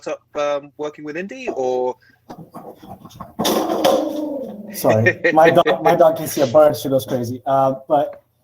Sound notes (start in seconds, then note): 3.0 metal banging sound